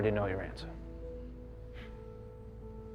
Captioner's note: scoffs